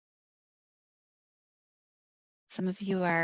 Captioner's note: silence